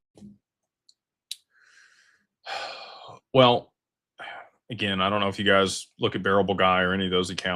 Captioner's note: sighs